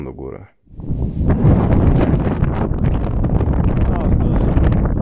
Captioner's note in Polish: jeszcze silniejszy szum wiatru